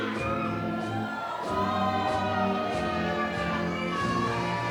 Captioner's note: audience cheers